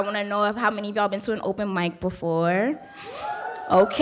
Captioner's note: audience cheering